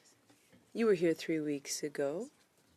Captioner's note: speaking French